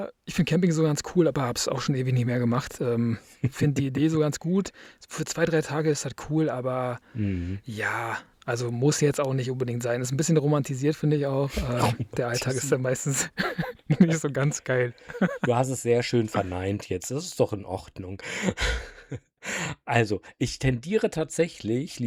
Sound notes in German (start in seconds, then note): 15.0 gelächter; 19.4 japst